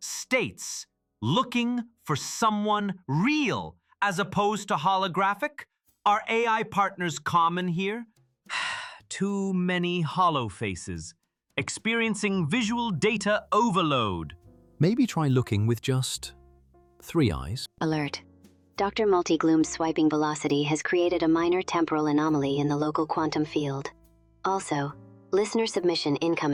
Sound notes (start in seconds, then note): 8.5 sigh